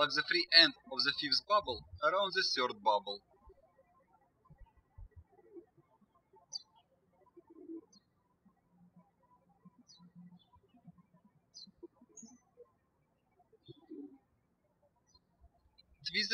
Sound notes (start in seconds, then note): 4.2 birds chirping